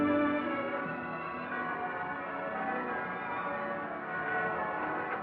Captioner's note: bells Pealing